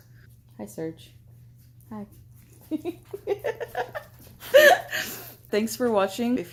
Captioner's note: laughing